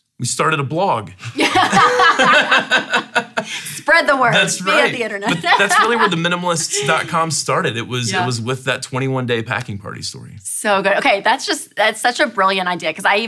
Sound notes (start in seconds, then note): 1.3 laughing